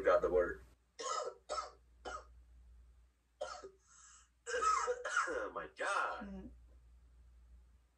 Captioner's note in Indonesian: batuk